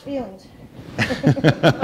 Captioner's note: laughter